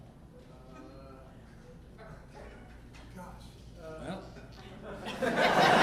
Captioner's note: audience member speaking distantly; audience laughing